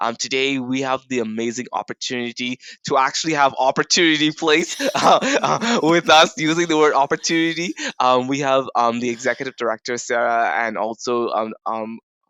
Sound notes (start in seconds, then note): 4.5 laughs